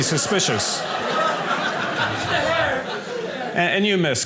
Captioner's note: audience laughing